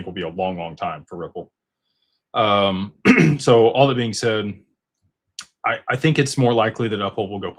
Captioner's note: clears throat